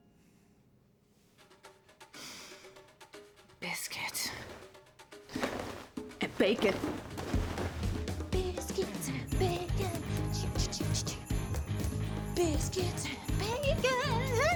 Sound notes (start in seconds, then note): 1.7 sniffing; 8.5 singing to self